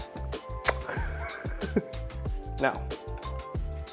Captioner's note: laughs